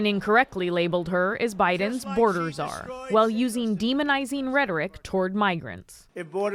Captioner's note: crowd booing